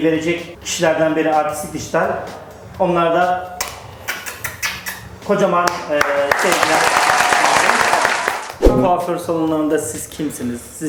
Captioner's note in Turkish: alkış